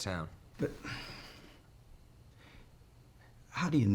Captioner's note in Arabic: تنهدات